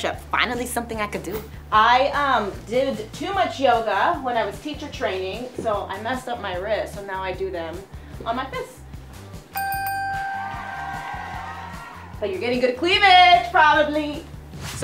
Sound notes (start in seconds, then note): 9.5 bell dings; 10.1 crowd cheers